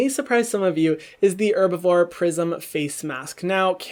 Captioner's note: gasp